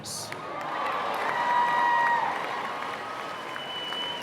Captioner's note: applause